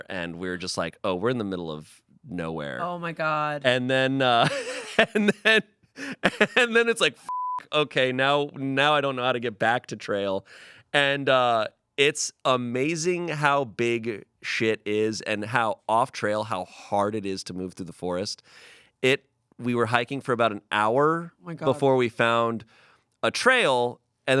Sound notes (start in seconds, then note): 6.0 laughs; 7.2 beep